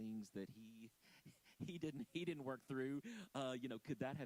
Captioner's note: chuckling